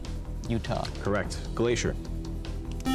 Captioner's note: buzzer